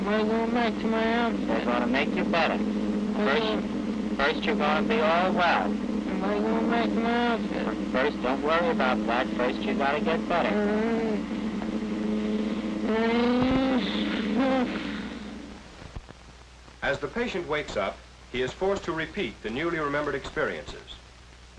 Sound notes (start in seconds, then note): 10.9 mumbling and groaning